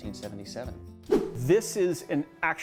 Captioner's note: air whooshing